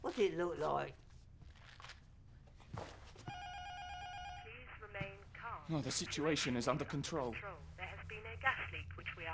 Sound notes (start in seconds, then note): 3.2 intercom buzzer ringing; 4.6 intercom; 7.8 intercom voice